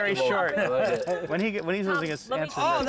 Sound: laugh

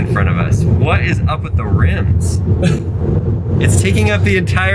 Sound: someone laughing

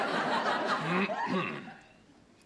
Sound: clearing throat

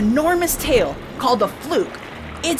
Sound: splashing

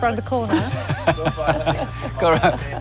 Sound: laughs

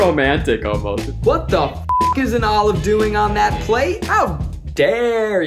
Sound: beep

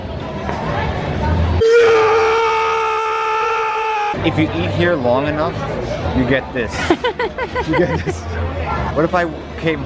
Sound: evil screams

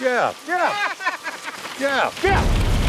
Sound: sinister laughing

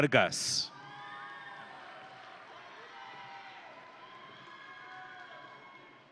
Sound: audience and graduates cheering

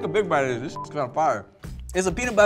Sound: beep

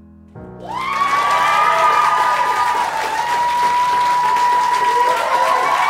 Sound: cheering and applauding

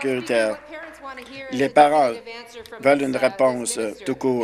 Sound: applause

